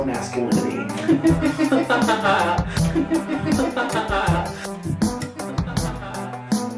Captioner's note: laughing